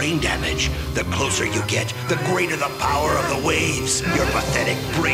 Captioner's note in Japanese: 優の苦しむ声